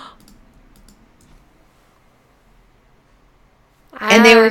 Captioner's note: gasping